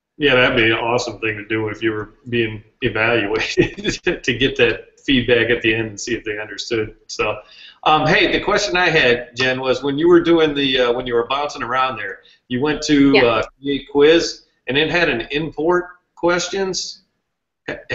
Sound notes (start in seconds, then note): 2.8 laugh